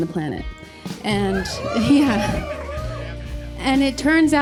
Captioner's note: audience cheers